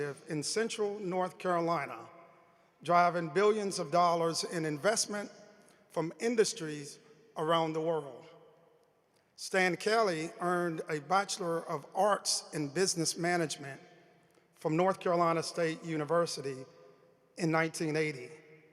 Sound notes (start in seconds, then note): none